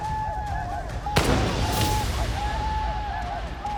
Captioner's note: gunshot